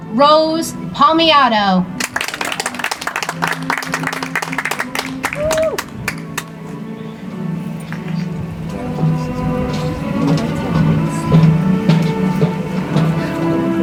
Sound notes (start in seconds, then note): 5.5 audience applauds; 10.4 soft music